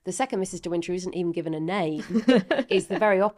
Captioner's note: laughing